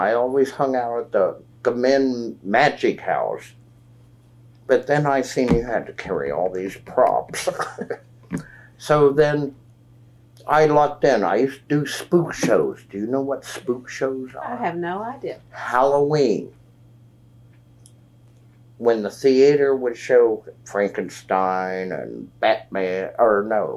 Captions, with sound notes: always hung out at the magic house, but then I saw you had to carry all these props. (Laughs) So then I lucked in. I used to do spook shows. Do you know what spook shows are? I have no idea. At Halloween, when the theater would show Frankenstein and Batman—or no,